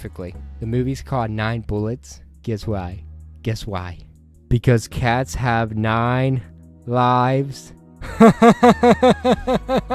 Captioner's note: laughter